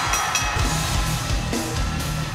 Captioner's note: bell ringing; cheers and applause